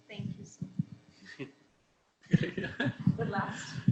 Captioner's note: chuckles